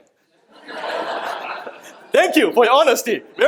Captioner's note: laughing